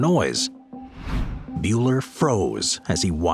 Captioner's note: screen whooshing